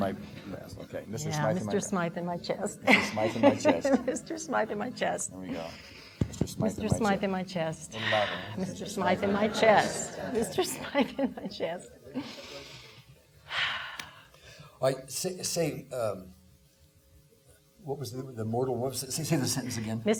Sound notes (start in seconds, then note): 13.5 inhaling and exhaling